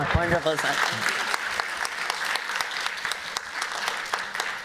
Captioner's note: applause